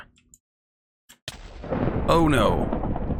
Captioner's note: thunder crashes